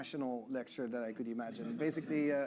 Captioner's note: audience chuckling